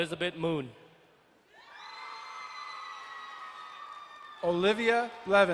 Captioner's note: crowd cheering and applauding